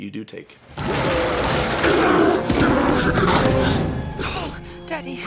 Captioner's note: roars